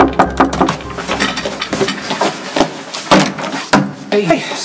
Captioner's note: knock on door